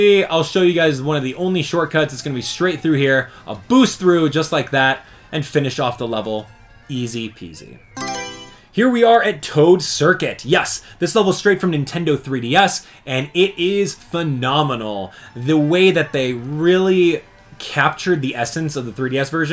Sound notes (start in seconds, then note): 8.0 Mario Selection Sound